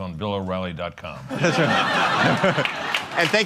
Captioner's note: laughter